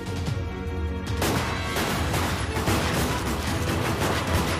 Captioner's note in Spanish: Disparos